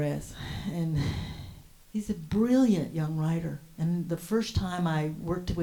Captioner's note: exhales